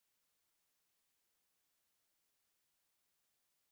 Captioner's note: none